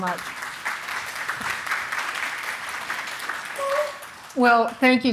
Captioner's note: audience applauding